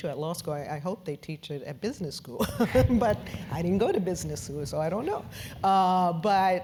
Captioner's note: laugh